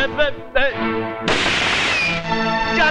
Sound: gunshot

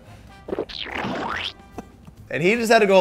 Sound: liquid splatting

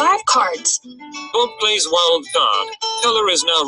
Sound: voiceover

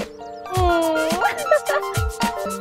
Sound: laughs

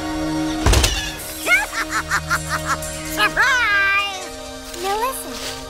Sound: laughing

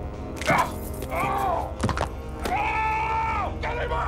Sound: shouts in pain

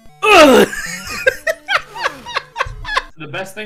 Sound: laughing

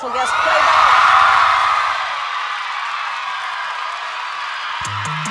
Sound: applause

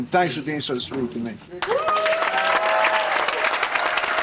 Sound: cheering and applause

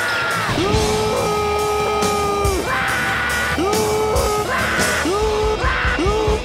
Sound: Patrick yelling; Spongebob and Patrick yelling; Spongebob and Patrick grunting

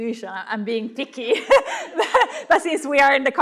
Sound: laughs

